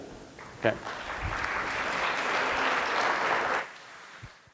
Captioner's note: audience applause